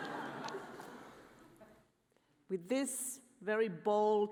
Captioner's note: audience laughing